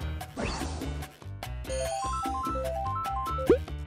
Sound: upbeat music; video game beeping

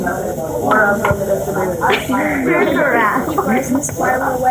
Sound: laughter

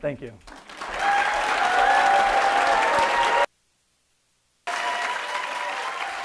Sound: audience applauding and cheering

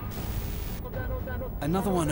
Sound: man speaking French

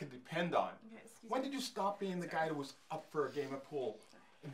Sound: whispers : "Okay, excuse me"

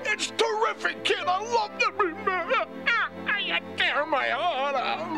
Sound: sobbing

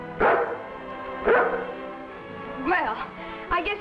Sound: dog barks

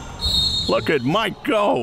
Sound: whistle

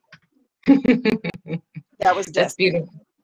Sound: chuckles

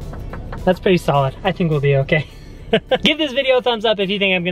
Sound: laughs

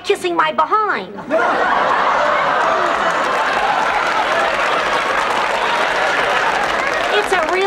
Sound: audience laughter

